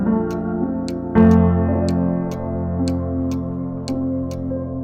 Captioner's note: clock ticks